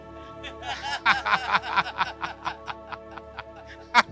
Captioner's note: both laughing